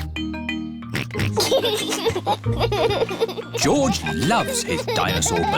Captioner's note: oinks and laughs